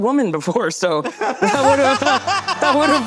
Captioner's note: both laughing